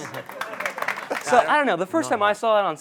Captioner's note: applause